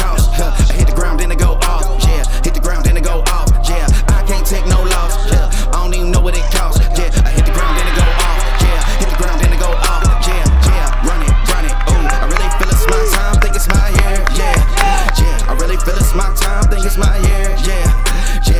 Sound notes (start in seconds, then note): 7.6 cheering